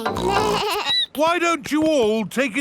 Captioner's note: snorts; bleats